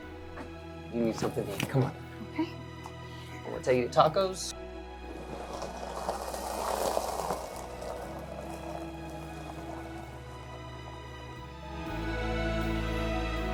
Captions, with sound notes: You need something to eat. Come on. - Okay. - I'm gonna take you to Tacos. (gravel crunching) (gentle music)